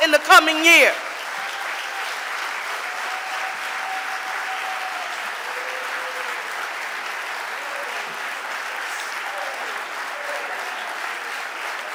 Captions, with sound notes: in the coming year. (audience applauding)